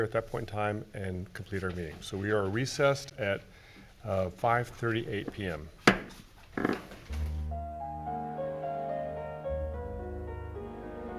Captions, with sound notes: at that point in time and complete our meeting. We are recessed at 5:38 PM. (gavel banging) (soft piano music)